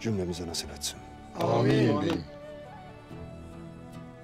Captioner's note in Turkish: Hep bir ağızdan